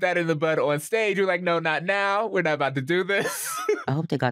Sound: laughs

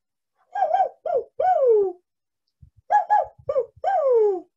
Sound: vocalizes

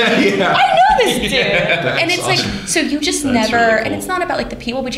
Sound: laughter

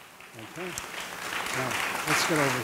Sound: audience applauding

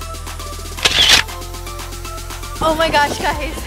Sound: camera shutters

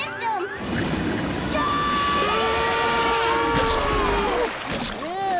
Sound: screaming

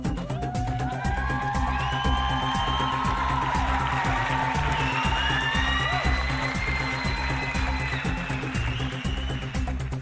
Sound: crowd Applause

